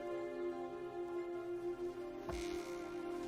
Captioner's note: door creaking